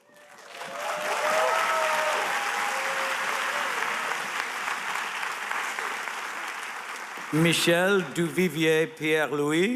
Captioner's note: applause